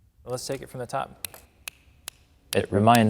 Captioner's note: snaps